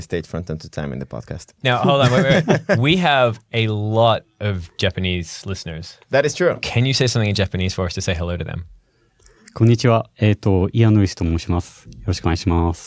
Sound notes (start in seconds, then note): 10.6 speaking japanese